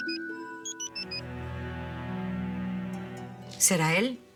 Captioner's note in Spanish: Suena el celular